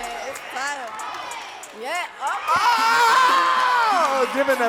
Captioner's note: audience talking and cheering